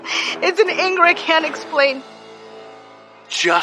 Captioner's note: sobsbs